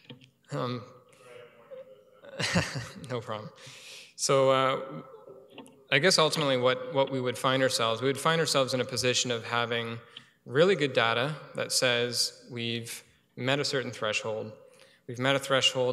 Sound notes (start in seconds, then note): 1.3 laughing